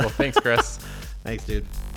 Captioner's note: laughing